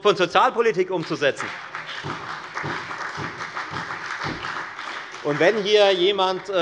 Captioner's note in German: Beifall bei der FDP und der SPD